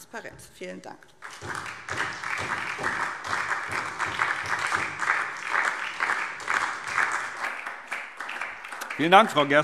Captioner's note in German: Beifall SPD